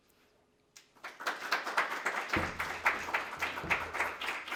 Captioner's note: crowd clapping